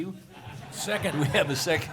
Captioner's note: laughter